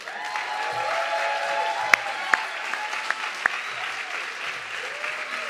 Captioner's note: audience clapping and cheering